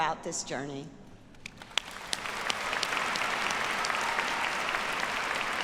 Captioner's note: audience applauds